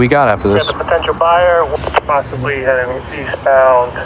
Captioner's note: on radidio